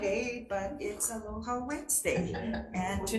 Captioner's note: Members laughing